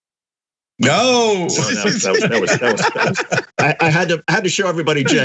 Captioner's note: laugh